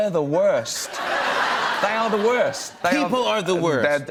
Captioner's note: laughter